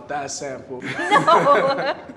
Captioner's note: laughter